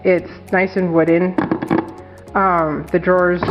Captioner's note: satisfying clacking nails on wood sounds